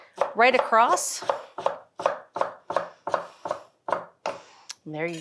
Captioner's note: knife clanking